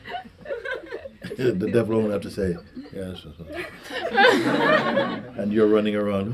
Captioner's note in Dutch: fluistert